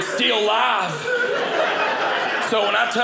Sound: audience laughing

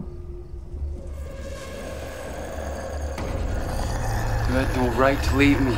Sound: gurgling growl

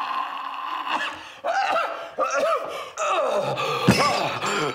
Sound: groaning; laughing

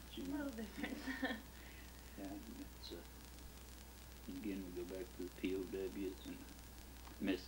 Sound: chuckles

